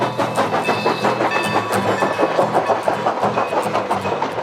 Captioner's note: crossing bell ringing